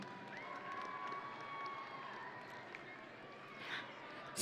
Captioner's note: audience cheering